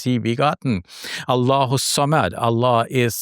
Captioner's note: speaks in foreign language